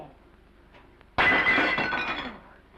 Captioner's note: plate shatters